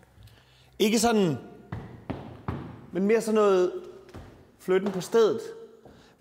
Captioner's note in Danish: stamp